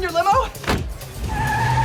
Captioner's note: car door closes